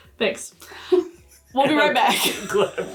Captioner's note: both laughing